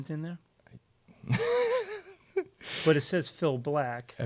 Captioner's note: laughs